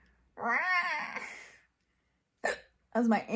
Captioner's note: meows